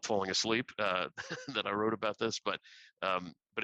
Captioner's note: laughter